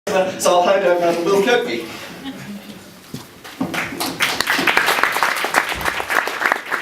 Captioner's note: applause